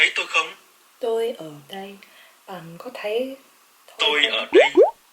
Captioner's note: Vietnamese